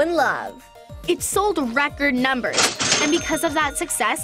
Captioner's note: cash register chiming